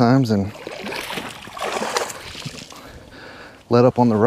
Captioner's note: water splash